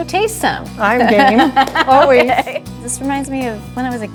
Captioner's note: laughs